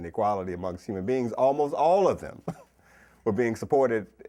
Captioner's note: chuckles